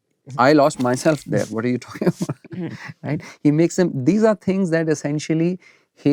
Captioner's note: laughter